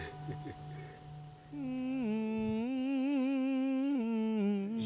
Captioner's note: woman humming